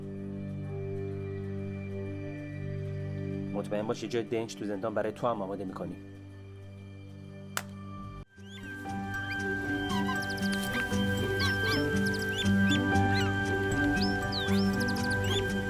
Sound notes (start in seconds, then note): 8.4 birds chirping; 8.8 orchestral music